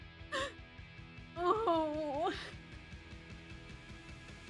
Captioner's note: crying